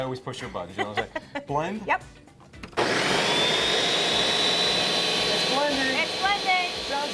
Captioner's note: loud Blender noise